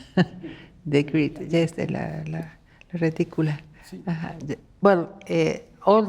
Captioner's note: speaking Spanish